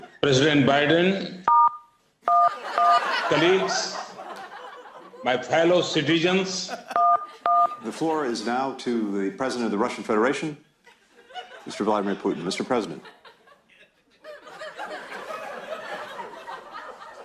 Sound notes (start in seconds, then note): 1.5 phone dialing; 7.4 phone dialing; 14.2 laughter